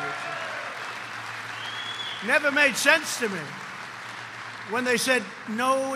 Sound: applause

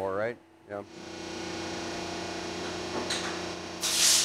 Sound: machine whirring

